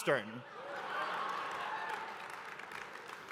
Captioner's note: laughter